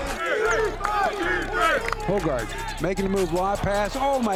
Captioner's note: players Shouting